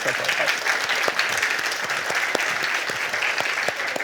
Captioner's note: applause